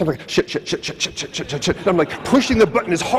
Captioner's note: audience laughs